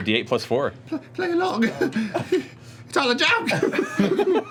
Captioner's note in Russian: испуганным голосом